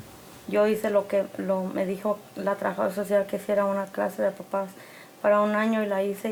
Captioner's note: speaks in foreign language